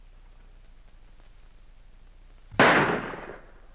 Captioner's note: gunshot